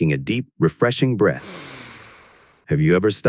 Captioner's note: person inhales